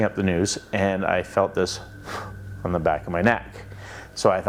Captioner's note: blows loudly